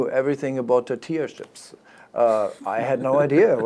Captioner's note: giggles